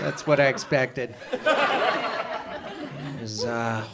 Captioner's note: audience chuckles